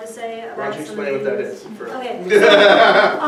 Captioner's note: laughing